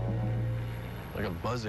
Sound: buzzing contiesnu

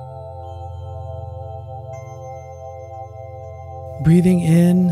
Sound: bell

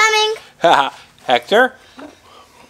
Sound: laughs

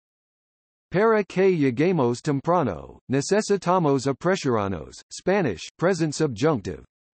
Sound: Spanish

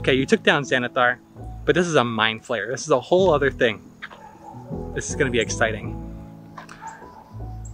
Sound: laughs

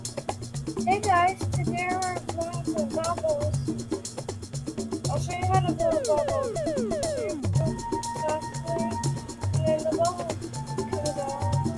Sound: blows

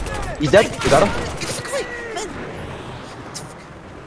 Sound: panik voice

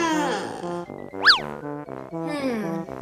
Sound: swish

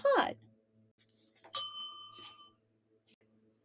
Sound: bell dings

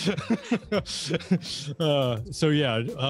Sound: both laughing

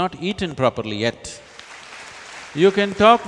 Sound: applause

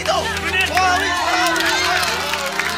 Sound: crowd cheering

